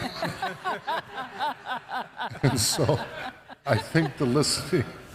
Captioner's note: audience laughs